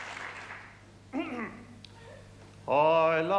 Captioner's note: clears throat